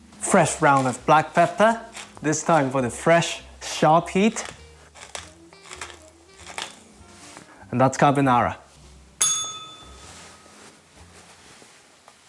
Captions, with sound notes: Fresh round of black pepper, this time for the fresh, sharp heat. And that's carbonara. [bell rings]